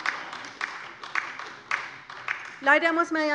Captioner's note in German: Beifall bei der LINKEN